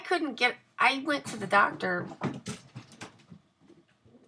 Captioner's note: thumping sound